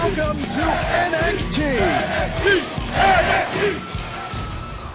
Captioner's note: crowd cheering